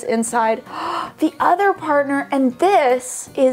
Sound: gasps

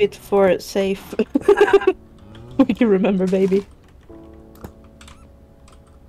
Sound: laughts uncontrolably

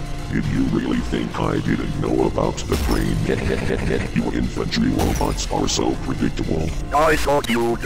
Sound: distorted laughter

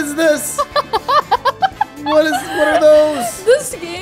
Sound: laughs

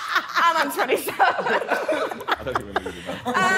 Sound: all laughing; women laughing

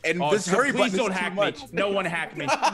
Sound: laugh

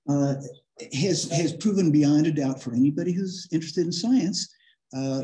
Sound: laughter

